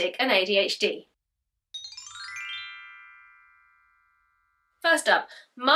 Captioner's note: chimes